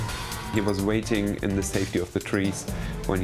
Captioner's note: sirens blaring